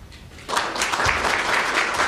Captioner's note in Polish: oklaski